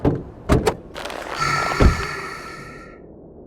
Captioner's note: Smoke sighs, tired